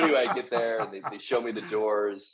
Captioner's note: laughs